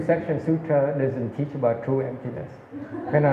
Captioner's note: laughs